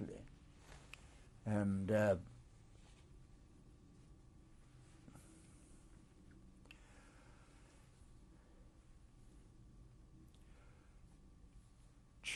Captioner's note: pauses for 10 seconds